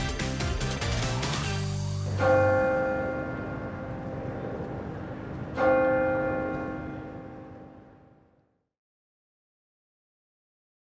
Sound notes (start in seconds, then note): 1.9 bell ringing